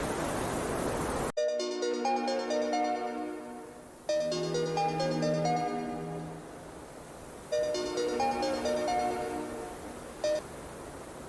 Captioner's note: phone ring